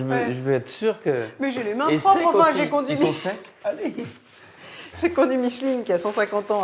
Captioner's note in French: rires